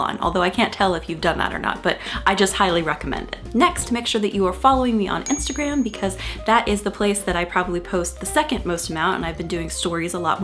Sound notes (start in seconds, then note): 5.2 bell chimes